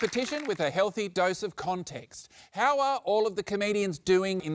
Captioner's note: cheering, applause